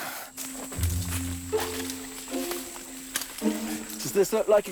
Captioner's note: bugs chirping